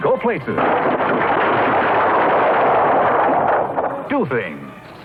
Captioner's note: burps